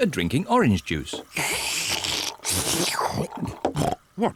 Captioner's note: both slurping